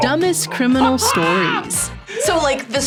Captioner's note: both laugh